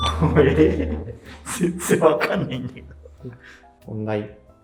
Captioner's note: laughing